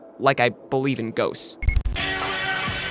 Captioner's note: glitch